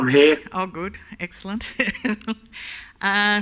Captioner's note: laughs